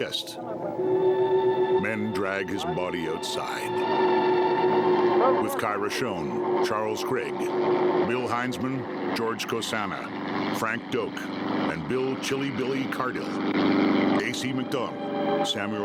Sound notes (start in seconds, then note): 0.0 haunting music; 5.2 officers chattering indistinctly; 8.7 helicopter whirring